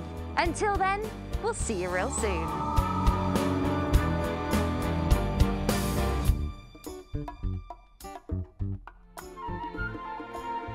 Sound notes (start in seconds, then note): 2.0 wind howling; 5.5 playful upbeat music